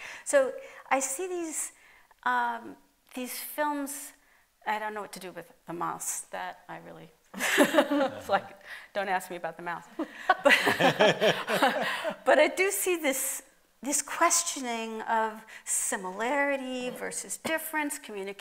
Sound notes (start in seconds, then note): 7.4 light laughter; 10.0 laughter